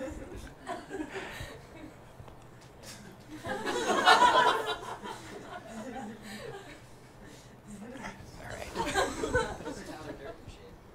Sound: scattered laughter

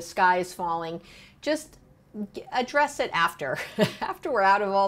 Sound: chuckling

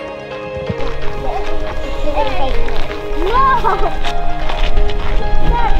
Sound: kids chatting indistinctly; inspiring music continues

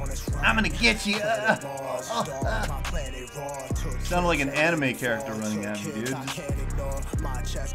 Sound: Anime noises ensue

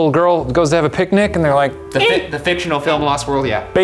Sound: small bird squeek

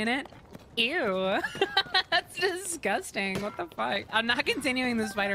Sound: laughter; laughing

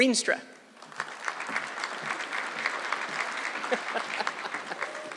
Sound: audience clapping

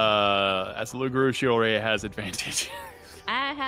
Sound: laughs

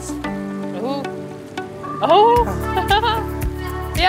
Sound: laughs

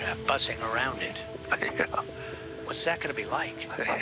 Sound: chuckles

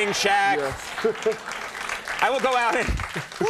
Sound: audience clapping

